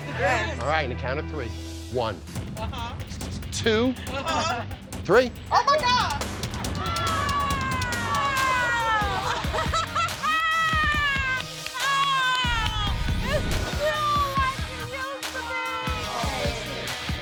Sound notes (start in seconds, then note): 7.1 all shouting; 8.8 laughing